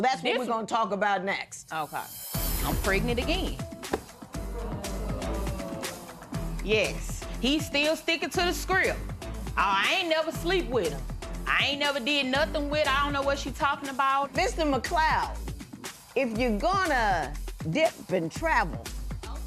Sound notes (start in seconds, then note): 4.4 spectators murmuring